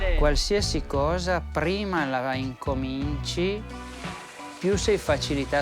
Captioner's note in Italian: parla in italiano